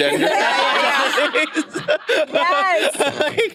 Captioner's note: participants laughing